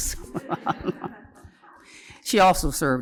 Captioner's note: laughter